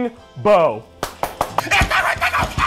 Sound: clapping

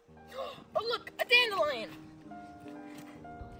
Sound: gasp

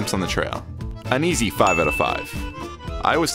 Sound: bell ringing

